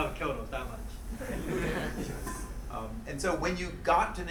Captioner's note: crowd murmuring; laughing